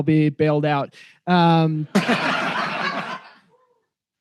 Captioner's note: laughter